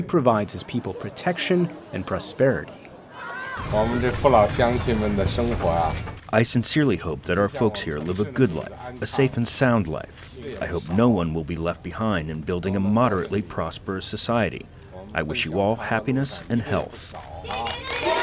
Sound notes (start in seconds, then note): 4.3 speaking foreign language; 17.2 crowd applauding; 17.3 crowd cheering